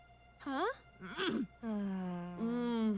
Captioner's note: sexual grunting; sighing